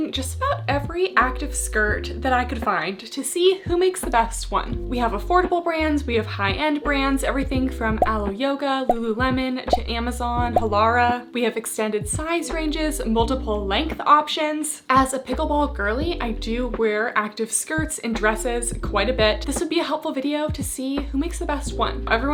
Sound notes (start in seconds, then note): 9.7 graphics beeping